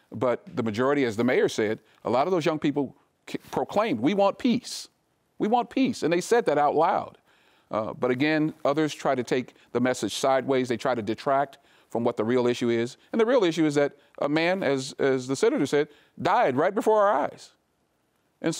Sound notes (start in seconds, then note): none